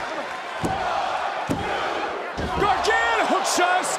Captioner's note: crowd shouts "one, two"